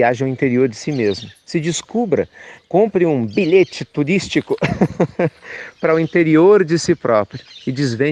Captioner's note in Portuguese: risos